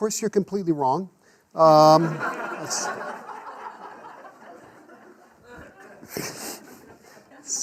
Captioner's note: class laughs